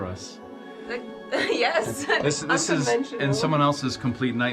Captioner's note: laughs